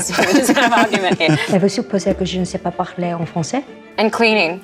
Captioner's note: Luke laughs; Sophie speaks French